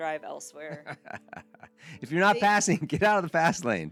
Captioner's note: laughing